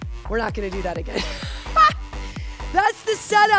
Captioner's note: laughter